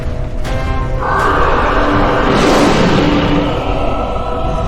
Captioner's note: both roaring